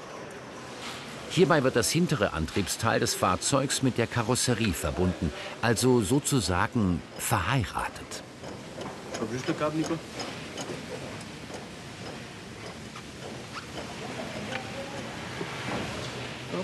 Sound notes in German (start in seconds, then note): 7.0 Hintergrundgespräche